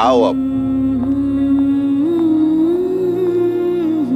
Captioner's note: Footsteps